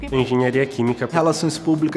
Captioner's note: woman speaking Portuguese; man speaking Portuguese